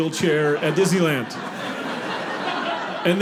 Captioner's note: audience laughing